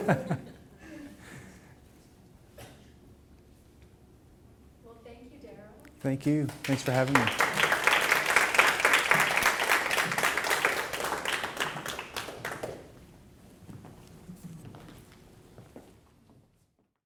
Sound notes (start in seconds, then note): 0.0 laughing; 9.4 audience clapping